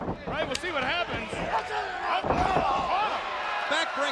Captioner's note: wrestlers grunting